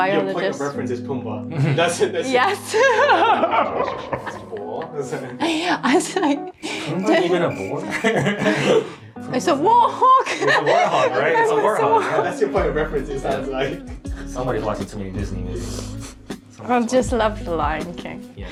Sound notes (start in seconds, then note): 2.7 chuckling; 5.3 laughing; 6.2 chuckling; 8.6 chuckling; 16.6 mumbling